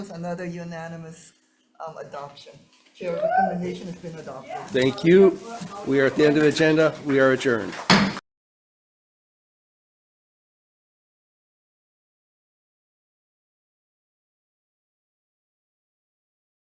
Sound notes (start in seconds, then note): 7.7 gavel bangs